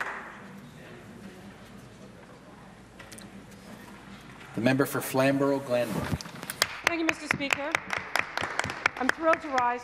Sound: applause

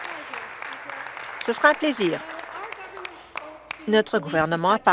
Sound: applause

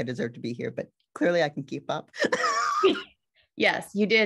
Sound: laughs

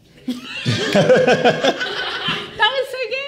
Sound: everyone laughs

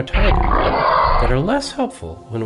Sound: tiger growl

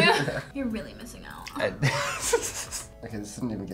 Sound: laughs

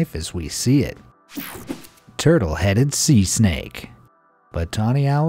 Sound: electricity buzzing

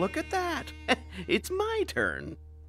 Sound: gasping; imitating maniacal laughter

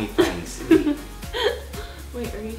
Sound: laughing

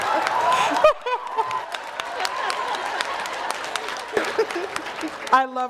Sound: laughter

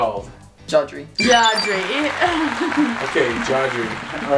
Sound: high-pitched beeps

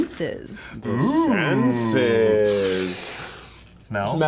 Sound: sniffs loudly

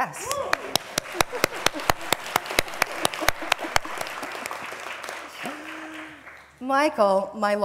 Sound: applause

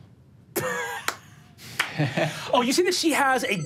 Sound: laughs

